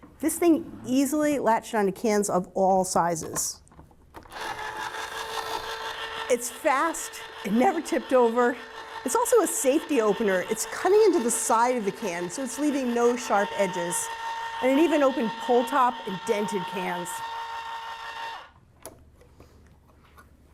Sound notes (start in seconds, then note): 3.9 can opener whirring; 17.1 can opener whirring